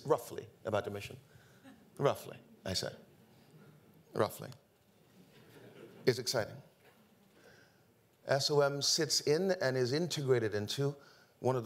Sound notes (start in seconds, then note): 5.3 audience laughing